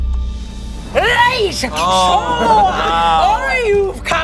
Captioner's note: chanting